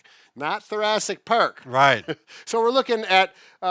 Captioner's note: laughs